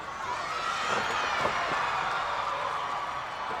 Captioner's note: crowd yelling